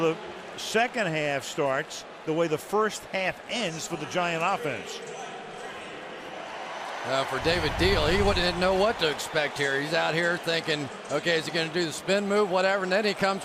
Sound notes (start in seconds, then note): 5.4 pa announcement; 7.0 cheering